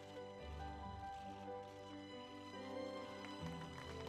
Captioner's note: cameras clicking